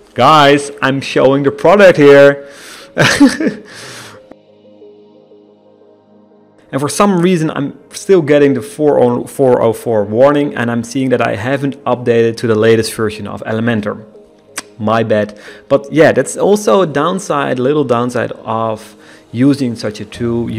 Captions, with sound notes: Guys I'm showing your product here. (nervous laughter) And for some reason I'm still getting the 404 warning and I'm seeing that I haven't updated to the latest version of Elementor, my bad! But yeah, that's also a downside little downside of using such a tool.